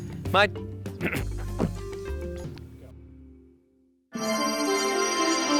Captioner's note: clearing throat; dreamy music